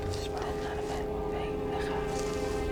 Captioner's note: female Celtic voice whispers loudly